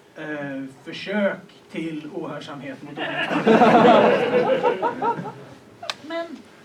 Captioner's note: Skratt